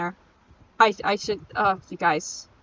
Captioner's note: stuttering, dumbfounded at myself